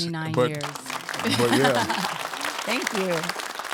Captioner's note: audience applauding